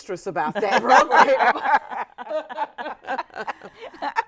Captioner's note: all laughing